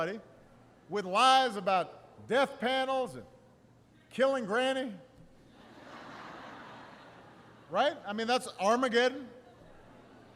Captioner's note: laughter